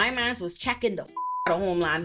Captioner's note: beep